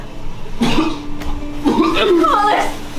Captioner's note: crying; coughing